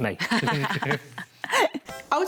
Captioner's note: laughs